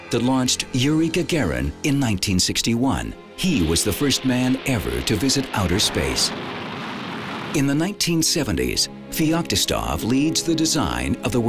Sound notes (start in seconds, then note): 6.4 rockets firing